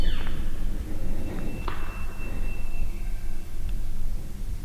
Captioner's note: elk Bugle